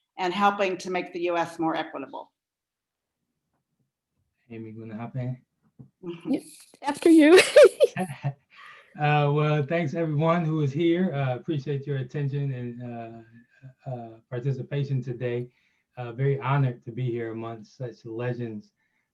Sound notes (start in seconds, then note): 5.0 speaks in foreign language; 7.0 laughing